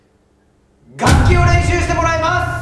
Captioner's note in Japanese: ドーン